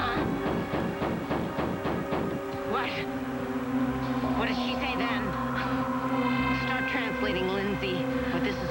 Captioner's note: thumping